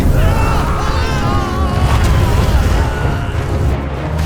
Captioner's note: urlo